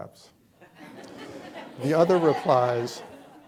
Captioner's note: chuckling